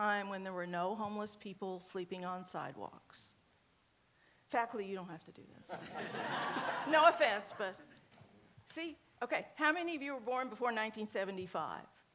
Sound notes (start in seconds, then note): 5.7 audience laughs